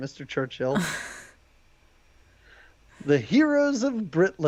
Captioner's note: woman laughs